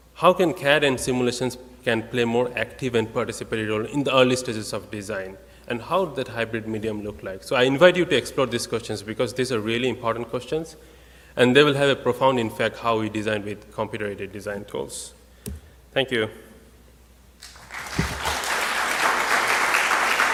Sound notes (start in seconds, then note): 17.4 clapping